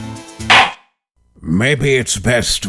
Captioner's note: gavel slams!